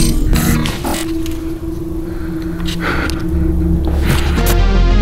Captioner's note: heavy breathing